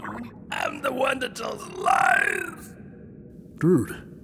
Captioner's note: bizarre raspy voice